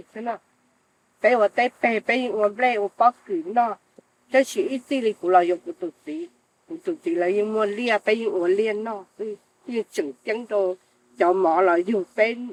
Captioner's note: speaks foreign language